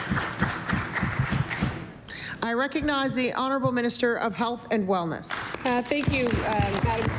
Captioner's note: applause